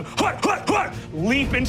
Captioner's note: groans